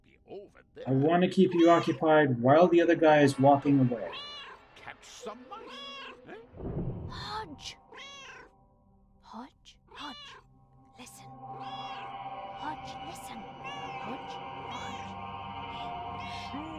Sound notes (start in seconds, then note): 1.1 Hodge meowing; 7.1 Hodge meows; 11.4 Hodge meows